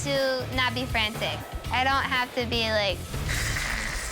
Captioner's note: growls